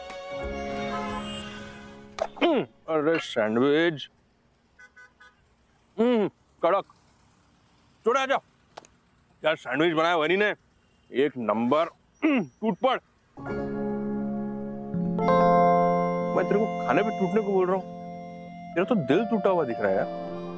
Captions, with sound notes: [traffic rushing] Hmm! Sandwich. Yum! Amazing. Come here. Vandana made such tasty sandwiches. Terrific! Start hogging. I asked you to hog, but you seem heartbroken.